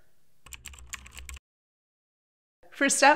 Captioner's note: typing